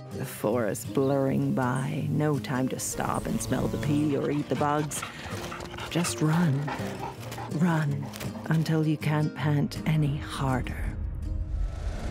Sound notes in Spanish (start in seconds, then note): 6.5 perro jadeando